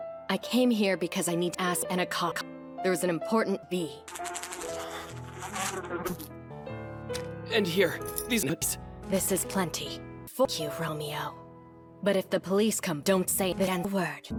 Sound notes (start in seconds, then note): 4.0 buzz